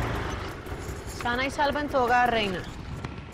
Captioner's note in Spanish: Ruido del motor